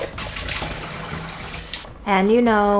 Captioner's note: blender whirring; water rushing